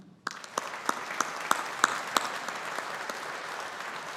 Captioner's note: audience applauding